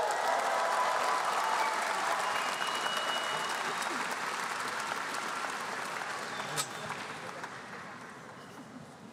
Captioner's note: applause